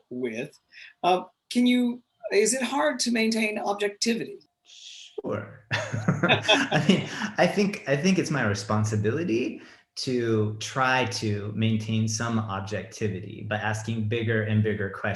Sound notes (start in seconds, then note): 5.7 both laughing